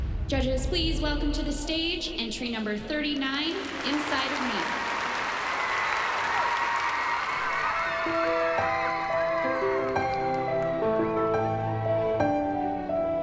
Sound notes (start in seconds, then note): 4.4 cheering and applause